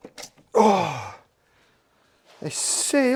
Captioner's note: sounds of relief